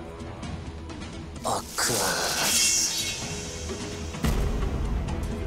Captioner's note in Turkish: Kılıç sesi